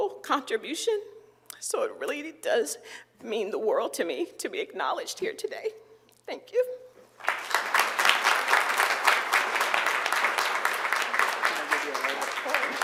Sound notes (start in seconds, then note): 7.2 applause